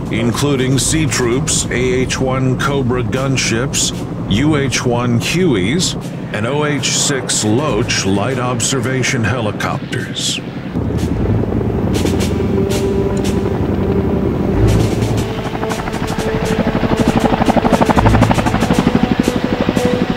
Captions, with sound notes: including C Troop's AH-1 Cobra gunships, UH-1 Hueys, and OH-6 Loach light observation helicopters. (blades whirring) (patriotic music)